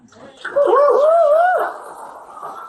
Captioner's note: audience applause